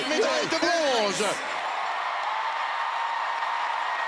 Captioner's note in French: acclamations